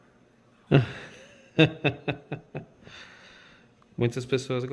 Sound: laughs

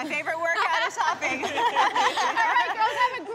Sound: laughing

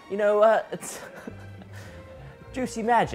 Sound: laughing

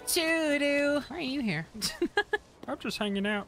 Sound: singing; laughing

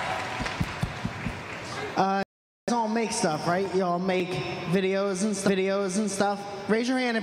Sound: applause

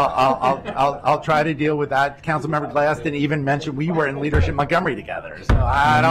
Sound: laughter

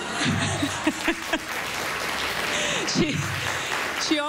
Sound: laughter, applause

